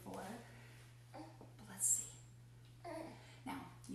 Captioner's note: coos